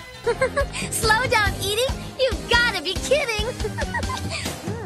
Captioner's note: laughs